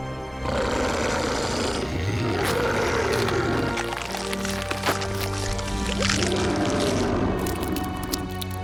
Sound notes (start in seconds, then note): 3.1 skin ripping